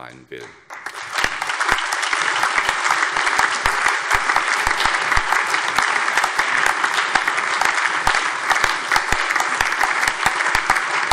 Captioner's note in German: Allgemeiner Beifall